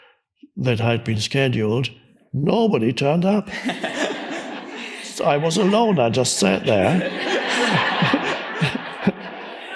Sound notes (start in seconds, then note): 3.5 audience laughs; 8.1 laughs